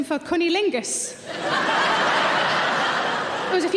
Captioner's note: audience laughing